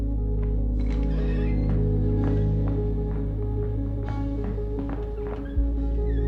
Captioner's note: footsteps thud; door opens